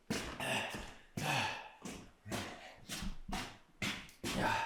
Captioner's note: Jacob panting